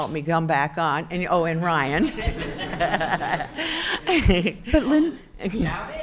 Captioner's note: chuckles